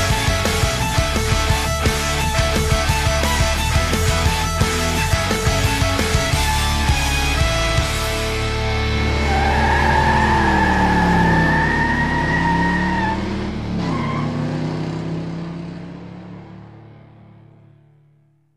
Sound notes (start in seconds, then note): 8.3 tires screeching; 9.2 engine rumbling